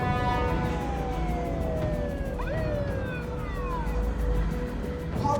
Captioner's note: police siren wailing